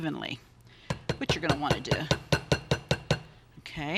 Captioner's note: spatula tapping